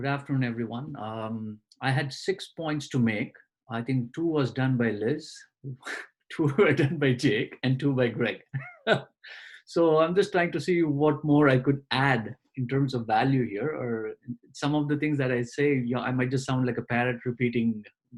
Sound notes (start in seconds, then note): 8.5 laughs